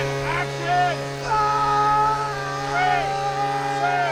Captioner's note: screaming